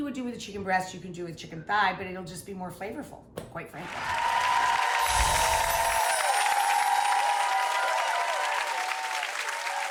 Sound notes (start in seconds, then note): 3.8 applause